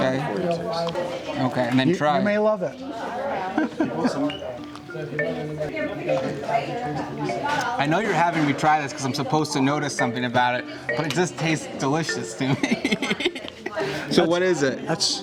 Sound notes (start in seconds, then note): 3.4 lighthearted music; 3.6 laughs; 12.4 laughs